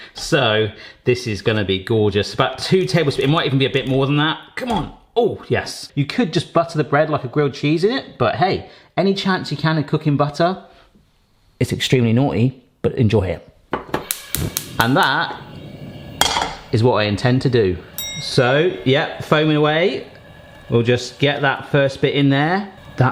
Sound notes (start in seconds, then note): 14.1 burner fires; 18.0 bell chimes